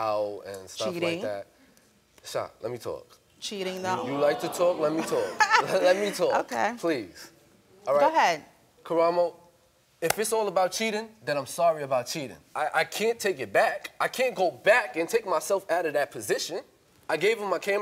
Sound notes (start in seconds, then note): 3.9 laughing